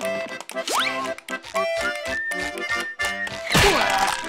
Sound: whistling

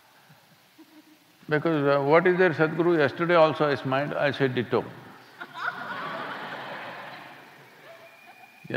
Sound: laughter

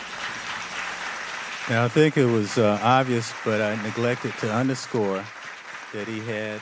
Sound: applause

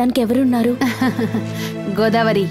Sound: laughs

